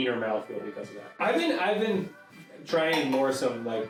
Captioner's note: glass clanking